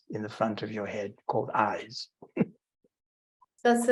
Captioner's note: chuckling